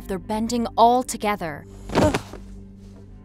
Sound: grunting

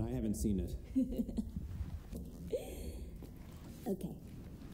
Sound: Kate laughs

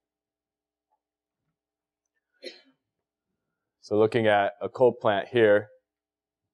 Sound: cough

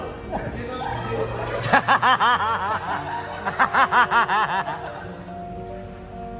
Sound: laughing

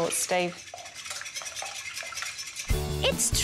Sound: furious whisking

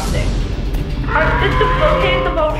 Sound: dinosaur roaring

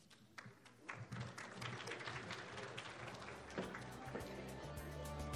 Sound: applauding

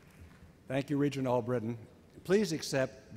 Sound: voiceover

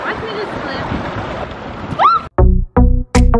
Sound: screams

